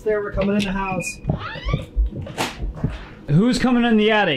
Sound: door creaks

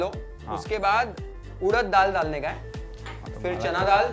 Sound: confused

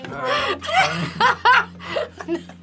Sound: wheezes with helpless laughter

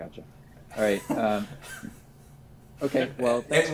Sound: laughs

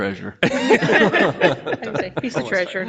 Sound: people laugh

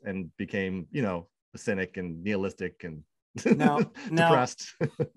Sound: laughs

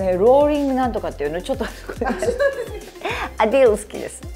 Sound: laughter

